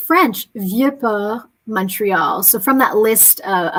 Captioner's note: speaking french